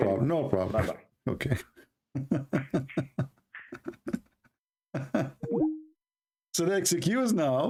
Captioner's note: Ketawa